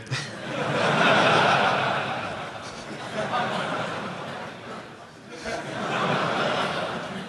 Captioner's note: laughter